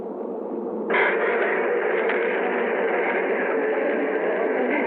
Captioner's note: bees buzzing